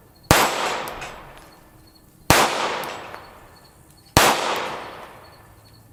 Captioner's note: gunshot; gunshots